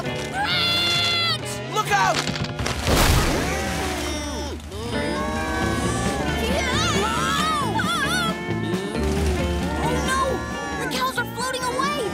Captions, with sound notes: branch! Look out! [mooing] [screaming] Oh, no! The cows are floating away!